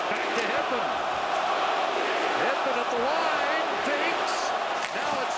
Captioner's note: chanting